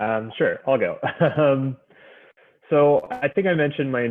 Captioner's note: chuckles